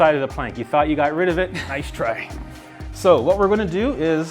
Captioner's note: laughing